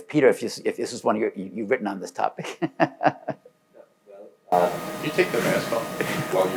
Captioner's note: laughs